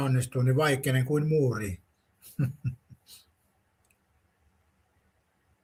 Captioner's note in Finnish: naurua